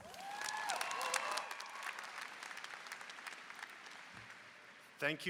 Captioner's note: applause and cheering